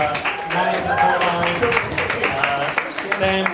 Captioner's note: audience claps